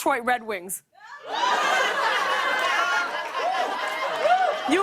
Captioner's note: laughter